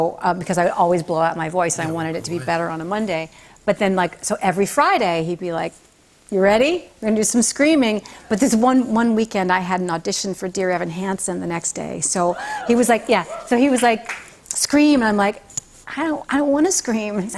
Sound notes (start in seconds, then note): 12.3 scattered cheers